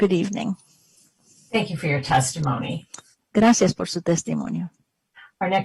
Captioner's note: speaking spanish